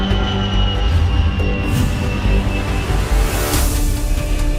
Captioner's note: airplane whooshing; words whooshing